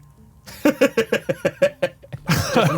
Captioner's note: laughs